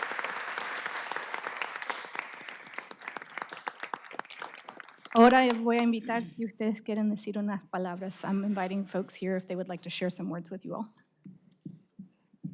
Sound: applause

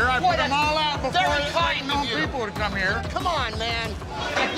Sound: beeping

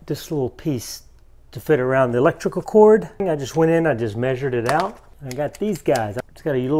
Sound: none

